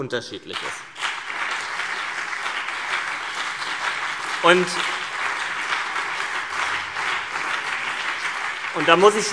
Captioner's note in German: Beifall CDU und BÜNDNIS 90/DIE GRÜNEN